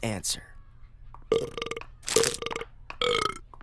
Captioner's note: burping repeatedly